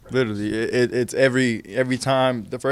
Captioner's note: stutters